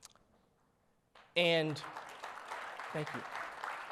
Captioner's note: audience applauds